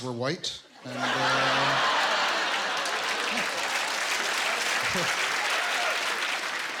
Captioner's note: laughter, applause